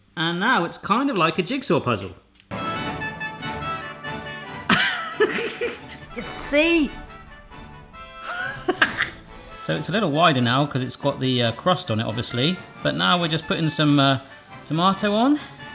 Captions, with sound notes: And now it's kind of like a jigsaw puzzle. (upbeat music) You see, (laughs). So it's a little wider now 'cause it's got the crust on it obviously. But now we're just putting some tomato on.